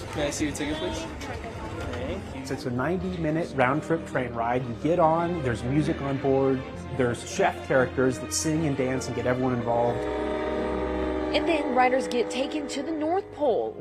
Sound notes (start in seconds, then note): 10.6 train hooting